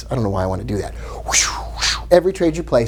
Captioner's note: whooshing